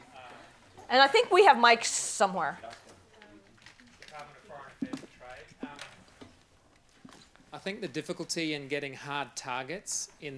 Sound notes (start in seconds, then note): 3.7 man speaking quietly